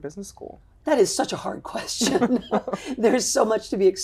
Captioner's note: laughs